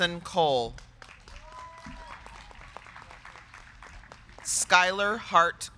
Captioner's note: crowd clapping; crowd cheering